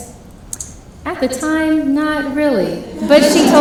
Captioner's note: laughing